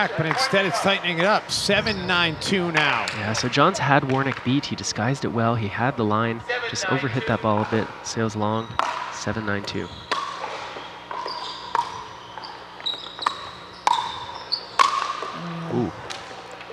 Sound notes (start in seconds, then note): 11.0 ball bouncing